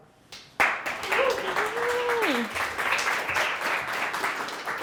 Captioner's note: audience applauding